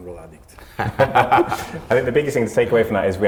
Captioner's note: group laughs